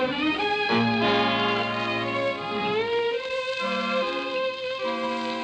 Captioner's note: train whistle